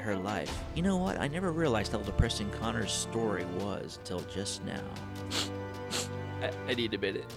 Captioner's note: sniffles